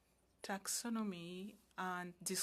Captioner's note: speaking French